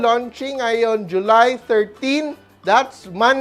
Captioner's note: none